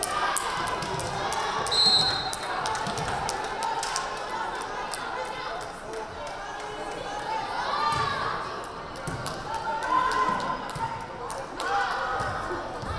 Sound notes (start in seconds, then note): 1.7 whistle blaring